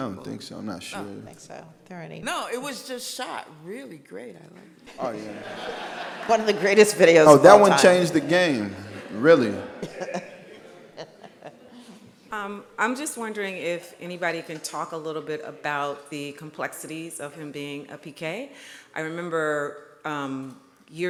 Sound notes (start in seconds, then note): 5.6 audience laughs; 9.8 laughs